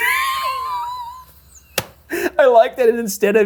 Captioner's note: laughing